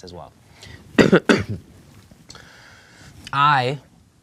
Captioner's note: coughing